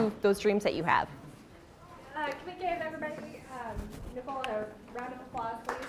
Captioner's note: audience applauding